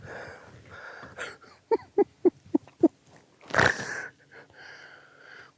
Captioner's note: giggling